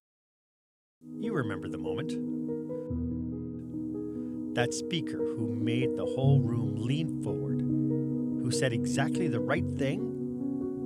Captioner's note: voiceover